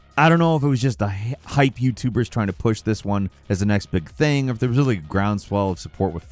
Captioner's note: none